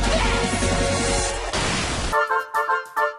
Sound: explosion; quirky music

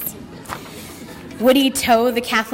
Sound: audience laughter

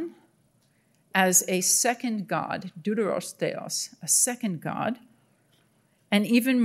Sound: speaking in Greek

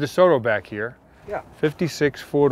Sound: voiceover

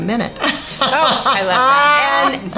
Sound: laughing

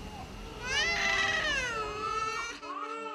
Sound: child crying

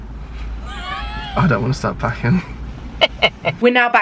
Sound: laughing

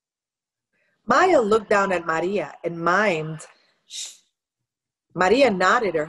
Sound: shushing

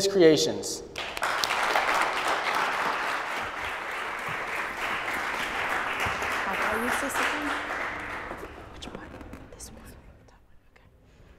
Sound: applause

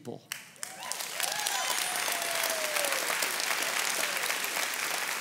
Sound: congregation cheers and applauds

